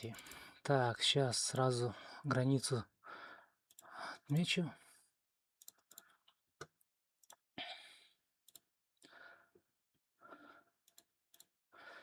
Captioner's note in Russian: вздыхает